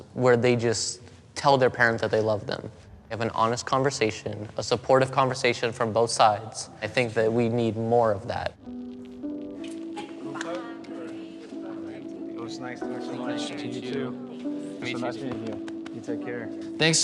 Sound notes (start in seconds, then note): 9.1 gentle dreamy music; 9.8 team chattering